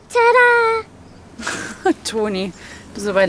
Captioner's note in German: lachend